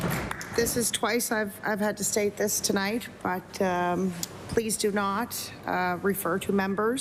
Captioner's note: applause